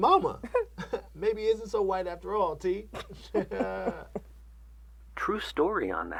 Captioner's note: chuckles